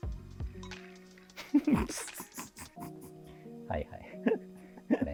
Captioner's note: laughing